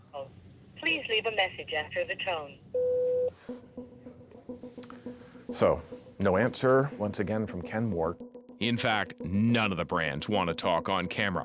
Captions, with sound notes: [woman on recording] Please leave a message after the tone. [Phone beeps] So, no answer, once again from Kenmore. In fact none of the brands want to talk on camera.